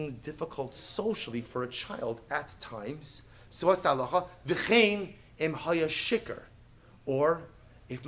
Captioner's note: Hebrew